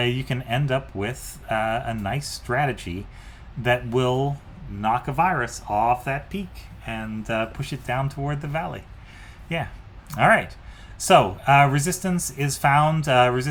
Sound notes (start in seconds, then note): none